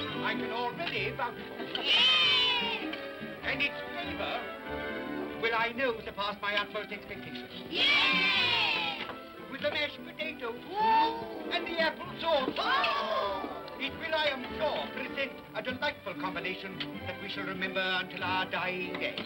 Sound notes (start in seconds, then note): 1.7 children cheer; 7.7 children cheer; 10.5 excited vocal sounds